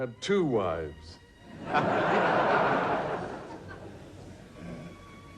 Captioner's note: audience laughs